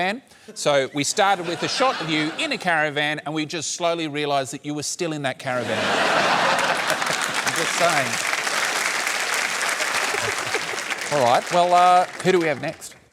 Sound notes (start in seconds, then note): 5.6 laughter; 6.2 applause